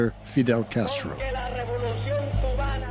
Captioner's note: Castro speaks in Spanish